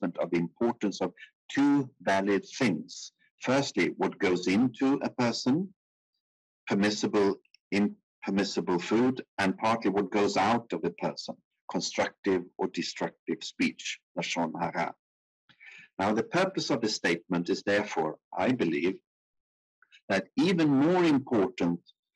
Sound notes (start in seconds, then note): 14.2 speaking in foreign language